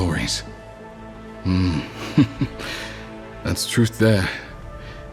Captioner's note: risada